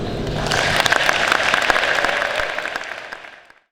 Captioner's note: applause